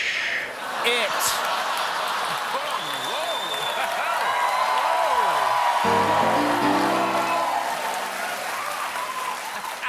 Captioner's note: cheers and applause